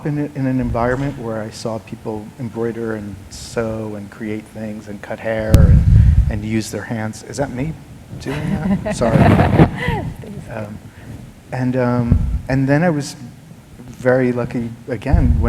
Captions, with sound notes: in an environment where I saw people embroider, and sew, and create things, and cut hair, and use their hands. Is that me doing that? Sorry. [SCRATCHING] And then I was very lucky, again,